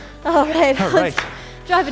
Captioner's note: breathes heavily